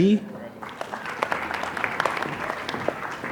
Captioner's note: applause